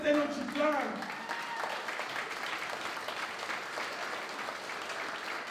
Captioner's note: applause